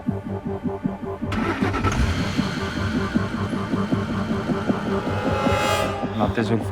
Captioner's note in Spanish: Ruido del vehículo